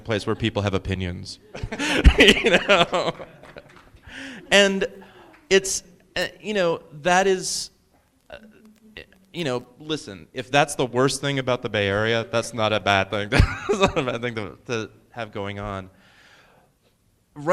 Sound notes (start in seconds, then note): 1.5 laughing